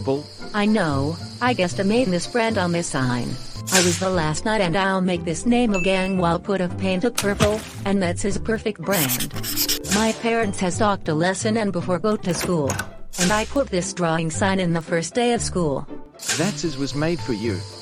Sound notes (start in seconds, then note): 3.5 flashback Sound